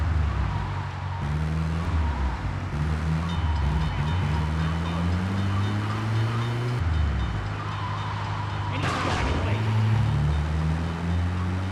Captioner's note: plane engine roaring